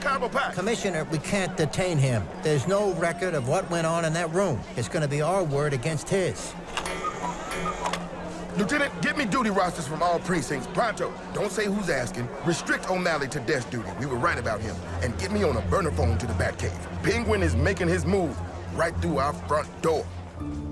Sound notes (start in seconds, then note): 6.7 cuckoo clock chimes